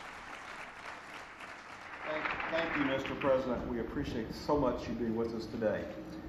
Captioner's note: applause